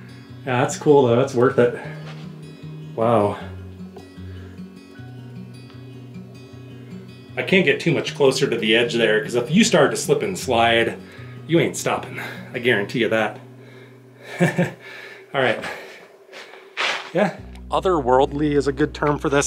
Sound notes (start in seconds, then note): 14.2 laugh